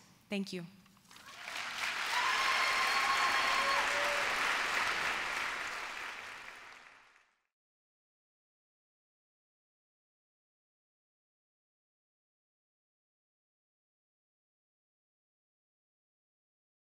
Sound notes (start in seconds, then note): 1.0 applause